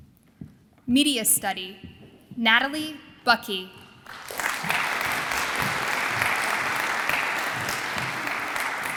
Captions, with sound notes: Media Study, Natalie Bucki. (audience applauds)